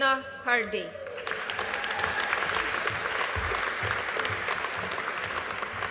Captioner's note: audience applauding